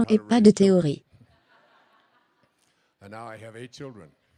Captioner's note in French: rire de l'audience